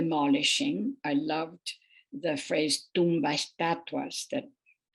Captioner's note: speaking foreign language